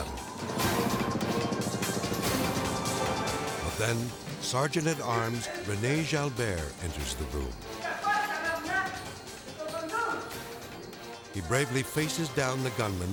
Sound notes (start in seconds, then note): 0.2 tense music; 7.4 gunman speaking French